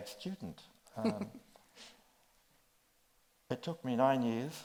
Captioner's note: chuckles